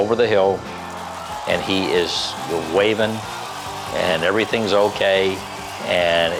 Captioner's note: crowd cheering